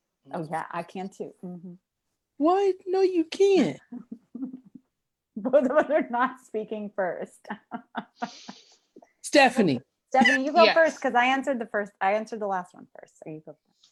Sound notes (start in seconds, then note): 7.6 laughs